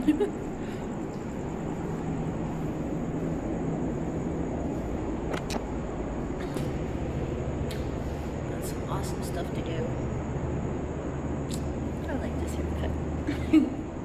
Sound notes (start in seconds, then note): 0.0 Destiny giggles; 5.5 camera clicks; 13.2 Destiny giggles